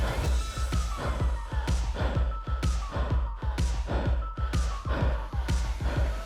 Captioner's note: breathing heavily